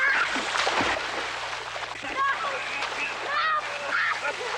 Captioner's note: children laughing